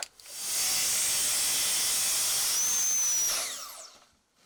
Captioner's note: saw grinding